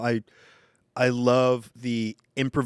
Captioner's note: none